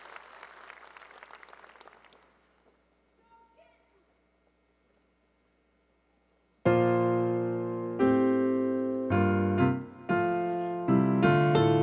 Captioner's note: applause